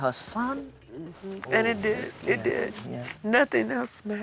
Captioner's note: crying